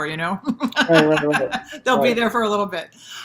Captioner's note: laughs